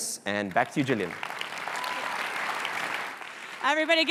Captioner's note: applause